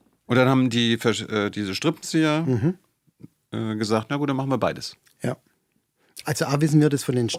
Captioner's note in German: räuspern